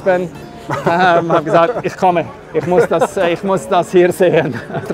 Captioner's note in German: lacht